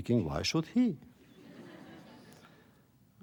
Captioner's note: laughter